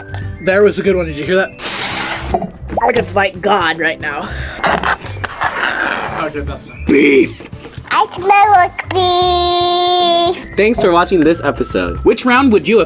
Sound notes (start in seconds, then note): 4.5 nails scratching